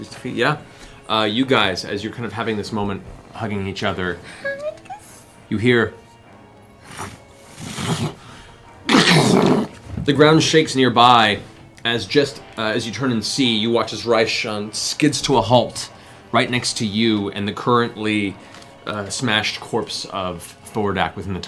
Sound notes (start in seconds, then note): 7.2 wings flapping; 8.6 smash